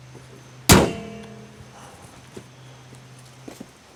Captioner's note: car hood thumps